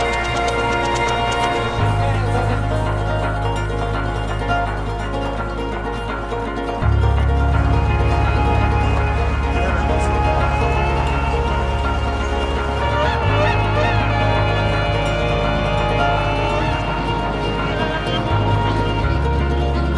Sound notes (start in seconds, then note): 6.6 up tempo guitar music; 12.9 horn blaring